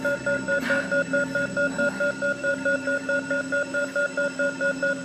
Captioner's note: ringing continues